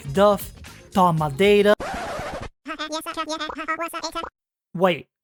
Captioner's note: record scratch, whispering…